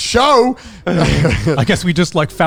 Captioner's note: all chuckle